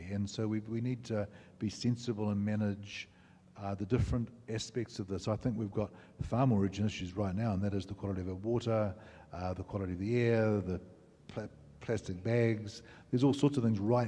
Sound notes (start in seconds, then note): none